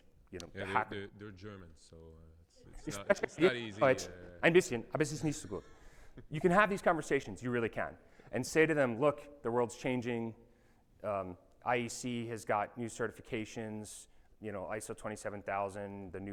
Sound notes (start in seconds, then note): 4.4 speaking in foreign language